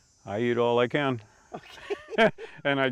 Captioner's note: chuckle